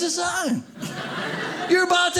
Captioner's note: audience laughing